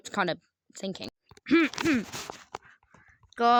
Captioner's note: throat clearing for awesome message